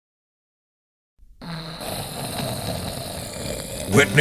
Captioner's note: snoring